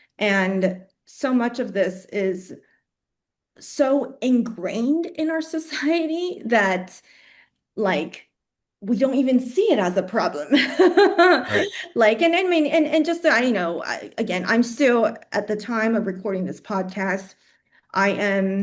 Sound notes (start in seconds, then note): 10.9 laughs